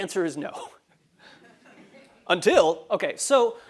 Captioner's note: laugh